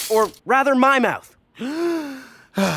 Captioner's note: deep inhale